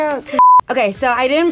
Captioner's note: beep